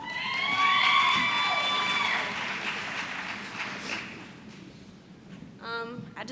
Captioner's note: applause